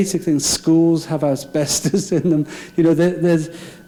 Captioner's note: laughing